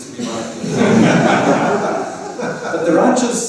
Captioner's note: laughter